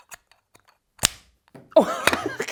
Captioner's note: laughs; metal smacking